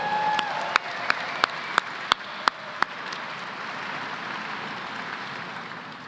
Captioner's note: applause